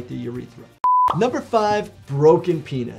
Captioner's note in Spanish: pantalla pitando